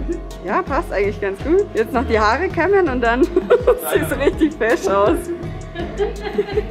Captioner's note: laughs